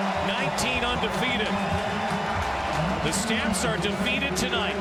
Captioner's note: cheering and Applause